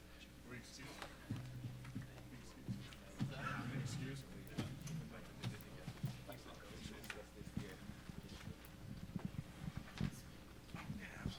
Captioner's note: background conversations